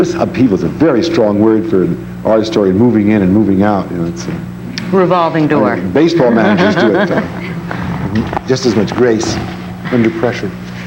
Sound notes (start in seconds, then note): 6.2 laughs